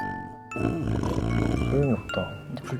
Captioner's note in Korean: 드르렁